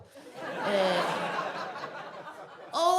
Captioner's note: audience laughs